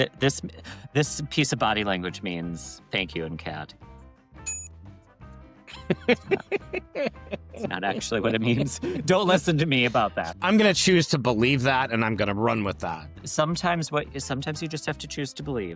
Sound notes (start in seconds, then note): 5.7 laughs